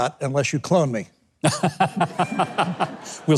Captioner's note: Mike chuckles; audience chuckles